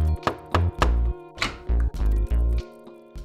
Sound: knocking; door opens

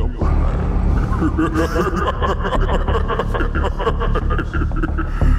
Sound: Carlo chuckling

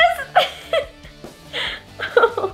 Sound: laughing

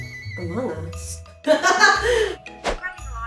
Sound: laughs

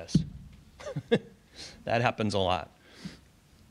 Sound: chuckles

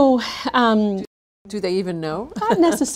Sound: laughs

